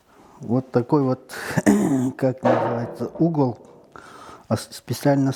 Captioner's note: coughs